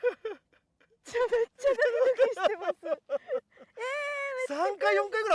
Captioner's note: laughs